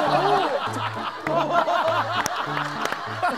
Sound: they burst into laughter

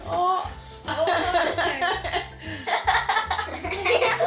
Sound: laughing

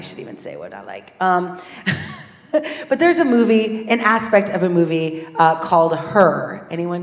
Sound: laugh

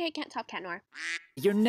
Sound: quack

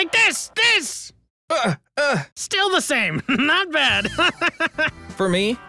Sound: laughs

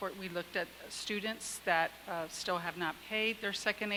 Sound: none

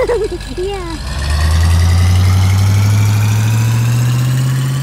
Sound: engine speedup

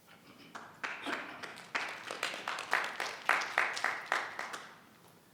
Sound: audience clapping

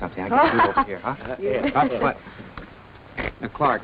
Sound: laughs

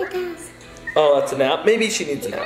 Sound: baby cooing

